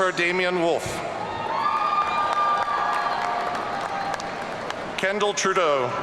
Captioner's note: audience cheering